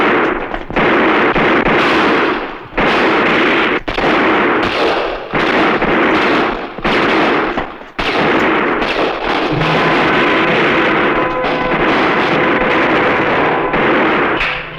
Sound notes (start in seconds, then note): 9.5 intriguing music; 11.4 gunfire